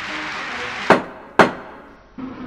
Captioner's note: judge's gavel